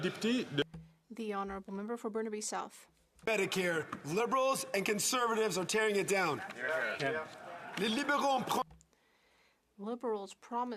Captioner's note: some Applause